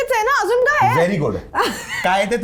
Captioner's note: laughs